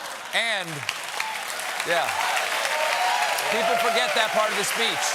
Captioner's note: cheers and applause